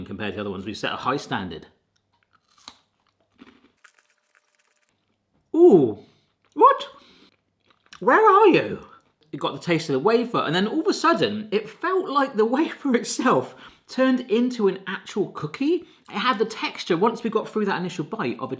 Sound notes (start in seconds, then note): 2.0 Kit Kat crunching